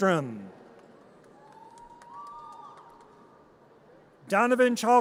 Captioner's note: audience cheers